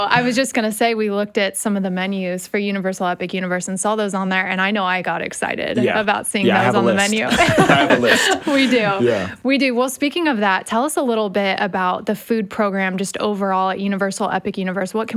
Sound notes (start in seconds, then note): 6.4 laughs